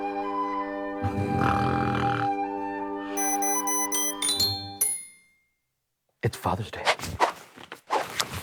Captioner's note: snoring sounds